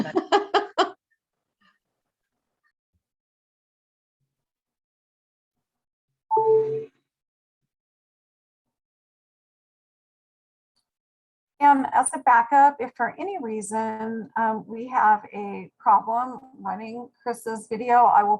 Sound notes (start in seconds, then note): 0.0 laughing; 6.3 computer chimes